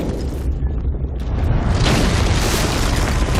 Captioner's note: loud cracking